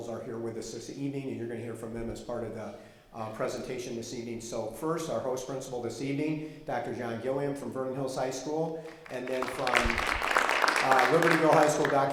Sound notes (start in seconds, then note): 8.8 audience clapping